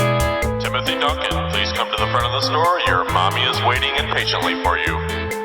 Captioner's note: overhead announcement